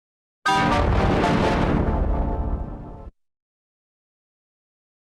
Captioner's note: Giga Evil Scary Windows XP Shutdown Sound